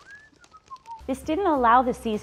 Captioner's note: whistles